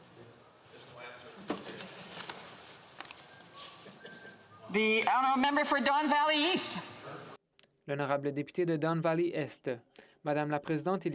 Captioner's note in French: voix de l'interprète